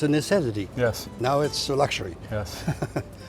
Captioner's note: laughs